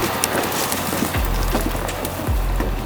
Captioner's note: engine revving; upbeat music